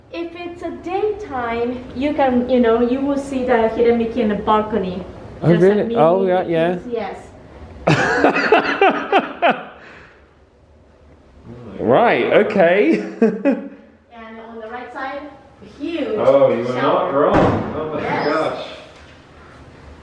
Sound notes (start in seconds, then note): 7.8 laughs